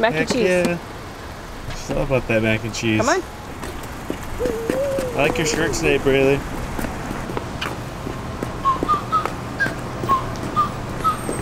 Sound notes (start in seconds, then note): 4.4 giggles; 8.6 whistling